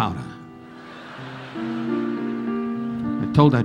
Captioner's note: audience laughing